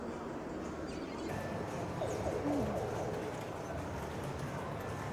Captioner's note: background pinball machine sounds